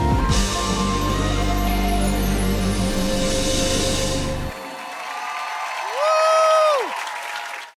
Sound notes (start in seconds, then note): 4.5 applause